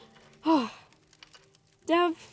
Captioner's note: Summer sighs